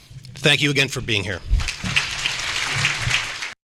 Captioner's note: applause